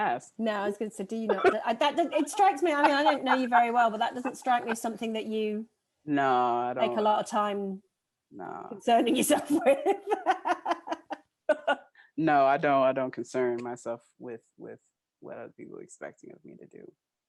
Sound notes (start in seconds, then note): 9.2 laughing